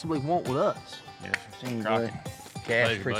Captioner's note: all chatting